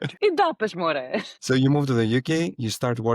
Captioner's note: speaks Greek